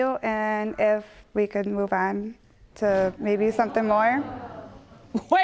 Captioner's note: audience gasps